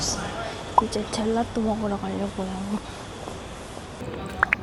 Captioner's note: excited noises